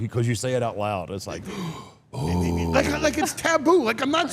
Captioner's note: gasps